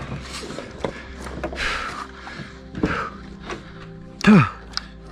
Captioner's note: heavy breathing